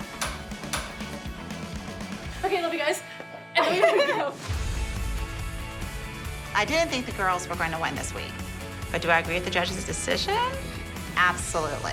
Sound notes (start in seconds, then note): 3.2 upbeat music playing; 3.5 laughter